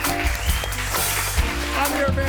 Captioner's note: applauding drowns out; audience applauds